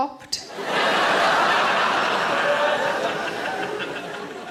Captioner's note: audience laughing